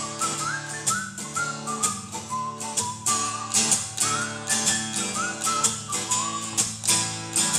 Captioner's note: whistles Jingle bell tune